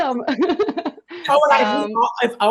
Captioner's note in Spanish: todos riendo